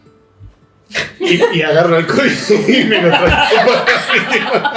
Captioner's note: laughter